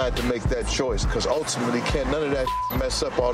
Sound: beep

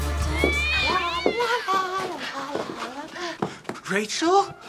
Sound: cat noise

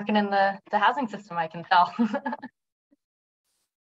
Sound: laughter

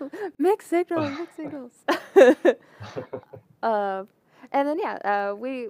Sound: laughter

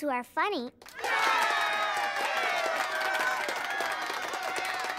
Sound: cheering and applauding

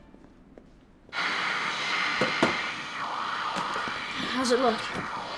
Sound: television static

